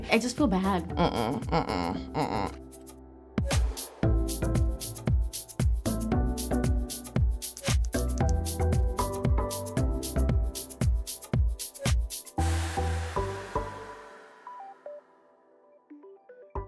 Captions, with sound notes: - I just feel bad. - Mmmh, mmmh, mmmh. (soft music beats) (typing)